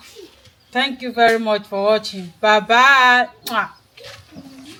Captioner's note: kisses